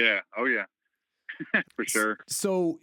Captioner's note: laughter